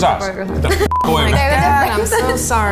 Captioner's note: beeps